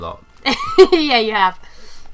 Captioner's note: laughter